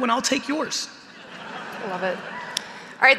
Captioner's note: audience laughing